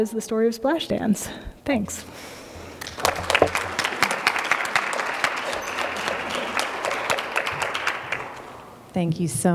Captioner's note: applause